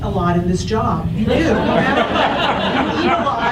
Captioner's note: audience laughs